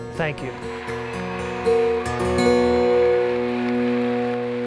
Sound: cheers and applause

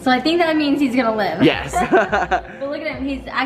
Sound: laughs

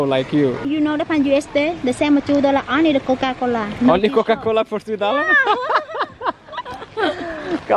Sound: laughter

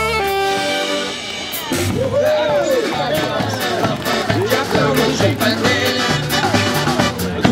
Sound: applause

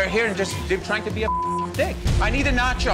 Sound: beep

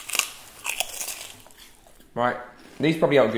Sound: crunching

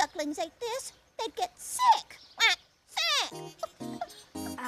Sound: quack

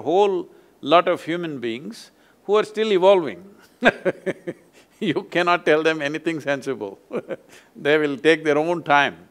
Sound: laughs

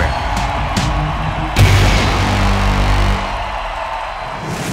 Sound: upbeat music; crowd cheering

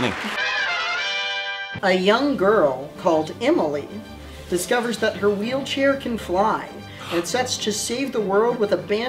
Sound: gasps

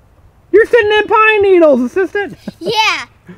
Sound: voiceover

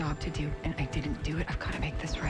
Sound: elevator bell dings

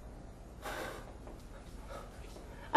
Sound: sighs

